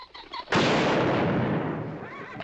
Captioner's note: gunshot